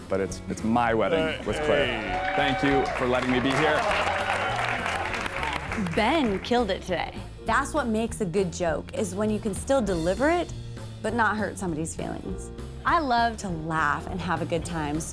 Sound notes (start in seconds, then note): 4.1 cheers and applause